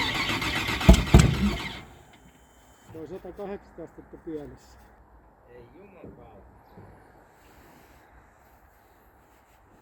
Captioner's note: ignition